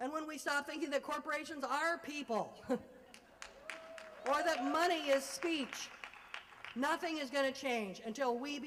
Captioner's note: applause